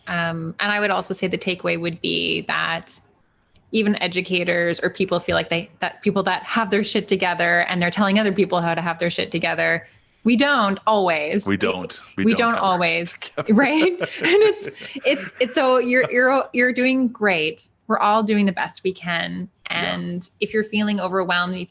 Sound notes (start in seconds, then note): 11.4 laughing; 13.2 chuckles